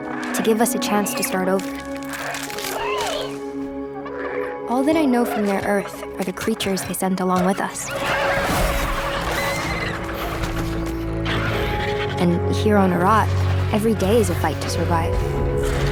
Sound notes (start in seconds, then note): 11.6 dinosaurs roaring